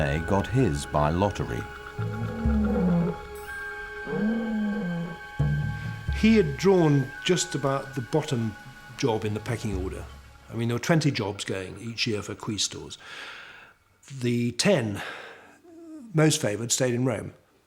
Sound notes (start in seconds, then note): 1.8 camel grunts